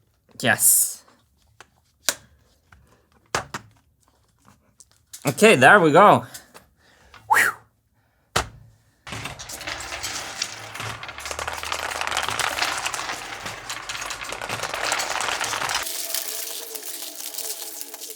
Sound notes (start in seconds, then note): 7.1 phew; 8.2 slap; 9.0 marbles rolling